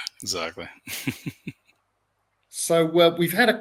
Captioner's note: laughs